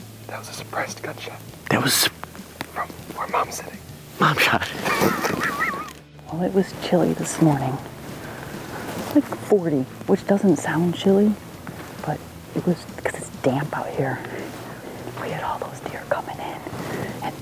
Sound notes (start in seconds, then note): 0.0 upbeat music; 2.6 upbeat music continues; 4.3 laughs